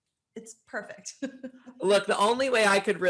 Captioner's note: laughs